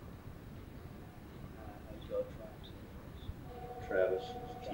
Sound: phone ringing

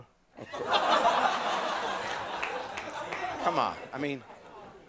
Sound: audience laughing

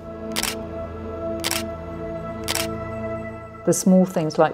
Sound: camera shutter clicking

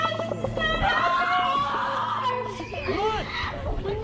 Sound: screaming

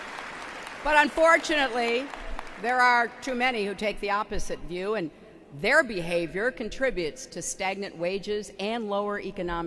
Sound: applause

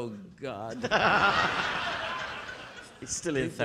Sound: audience laughing

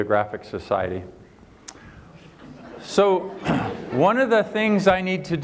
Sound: laughter

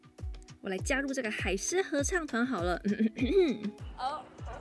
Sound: clear my throat

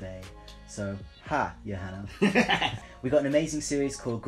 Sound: cackles

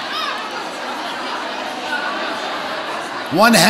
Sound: audience chattering

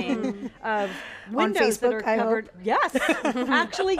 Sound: laughs

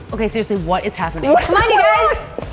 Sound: laughing

